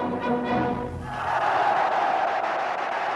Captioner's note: cheering